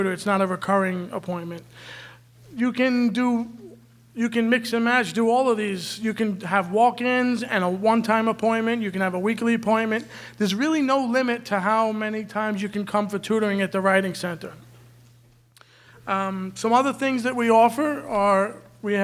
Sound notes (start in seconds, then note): none